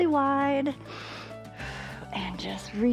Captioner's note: inhales and exhales